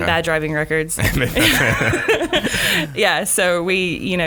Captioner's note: laughing